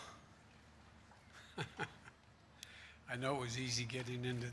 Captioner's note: laughs